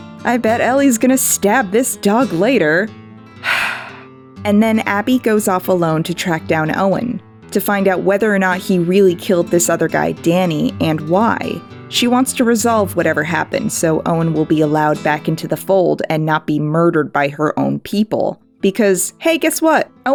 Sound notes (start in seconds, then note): 3.4 sigh